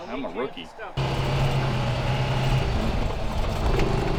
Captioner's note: car rumbling